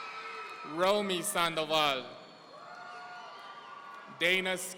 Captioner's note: audience cheering